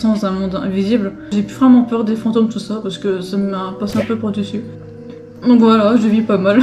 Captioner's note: noise of slapping